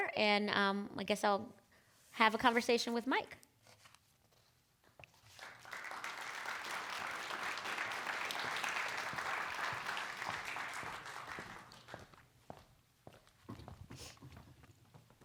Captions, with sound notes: and I guess I'll have a conversation with Mike. (applause)